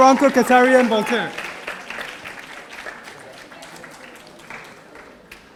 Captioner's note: audience applauding